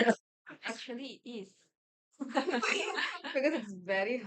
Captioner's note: everyone laughs